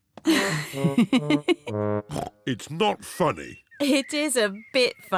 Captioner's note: giggles